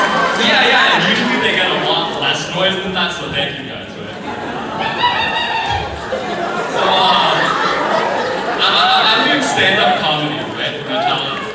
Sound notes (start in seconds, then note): 4.2 laughter; 4.5 orangutan noises